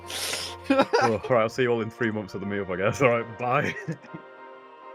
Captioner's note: laughing